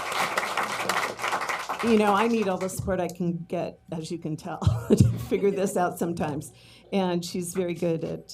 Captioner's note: applause